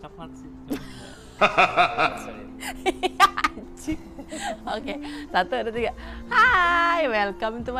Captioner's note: laughs